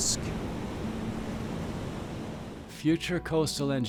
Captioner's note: waves crashing